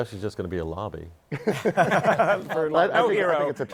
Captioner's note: laughter